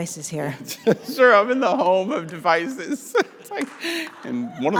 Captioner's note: chuckles